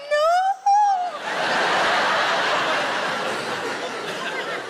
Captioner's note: audience laughs